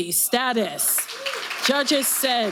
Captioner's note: audience applauding